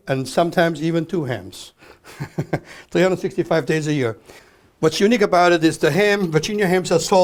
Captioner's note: laughs